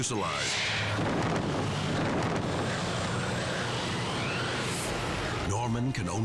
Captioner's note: tense music; wind whooshing